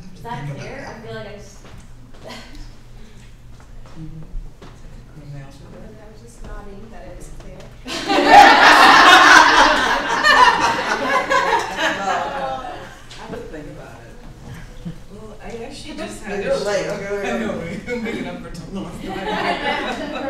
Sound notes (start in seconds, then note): 12.9 laughing; 19.0 laughter